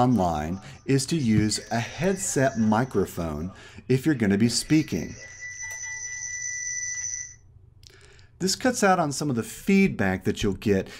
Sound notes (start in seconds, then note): 5.9 squelching feedback; 7.3 feedback ends